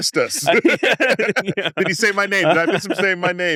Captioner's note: laughs